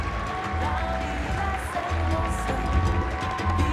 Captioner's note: cheering and Applause